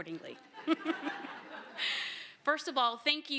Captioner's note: laughter